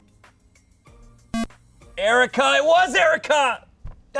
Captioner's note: electronic beep